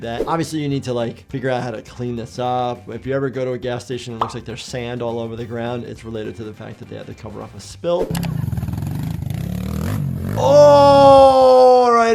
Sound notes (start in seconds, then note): 8.1 engine revving